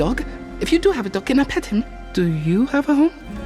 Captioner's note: none